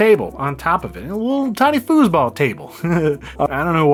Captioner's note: chuckles